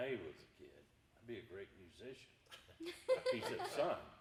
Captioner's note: laughing